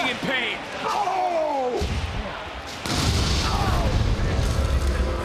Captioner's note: wrestler groans; crowd boos